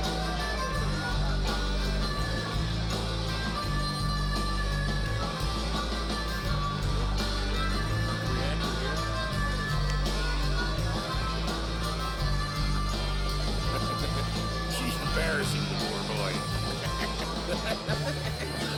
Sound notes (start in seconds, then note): 16.0 chuckles; 17.1 laughs